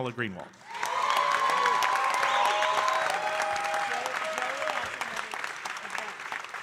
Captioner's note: audience cheering and applauding